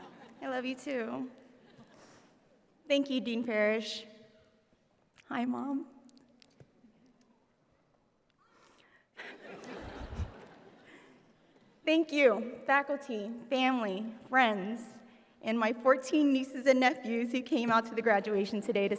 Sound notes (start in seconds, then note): 8.5 sighs; 9.2 audience laughs